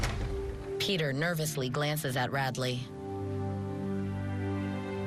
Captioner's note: door closes